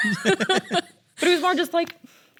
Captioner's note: laughs